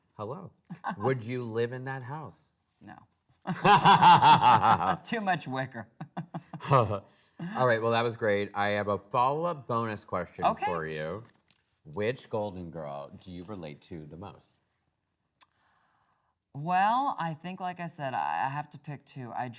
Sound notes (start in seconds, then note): 3.4 both laughing